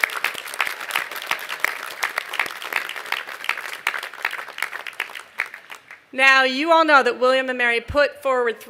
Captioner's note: applause